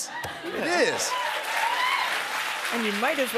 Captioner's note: cheers and applause